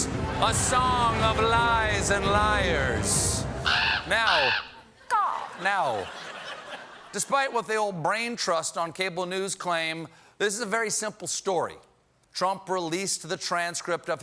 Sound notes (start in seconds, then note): 3.6 bird caw